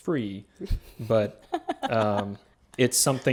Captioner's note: laughing